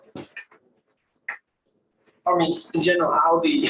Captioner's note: indistinct conversation